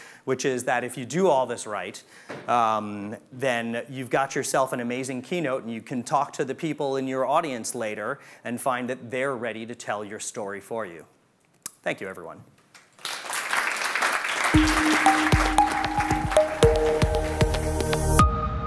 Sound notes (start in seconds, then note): 12.8 audience applauding; 14.5 upbeat music